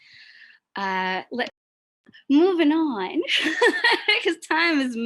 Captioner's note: laughs